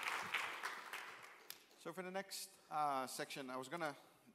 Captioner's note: applause